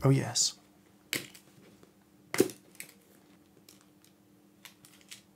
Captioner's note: buckles opening